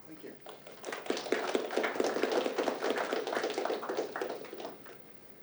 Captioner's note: applause